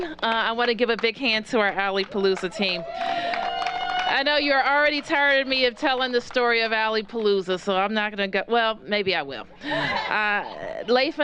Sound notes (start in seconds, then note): 2.0 cheers and applause